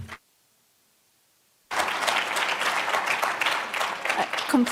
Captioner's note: applause